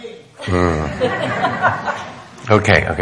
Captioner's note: audience laughing